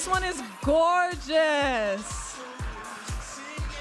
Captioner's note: audience applauding and cheering